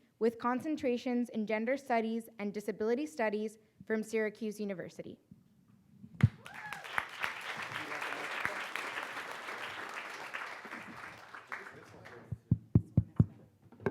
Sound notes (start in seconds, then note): 6.2 audience applauds